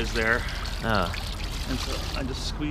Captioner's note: water splashing